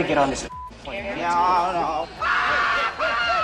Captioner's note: screaming